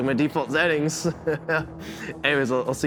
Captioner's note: Oz laughing